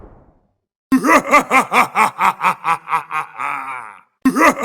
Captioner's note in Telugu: నవ్వు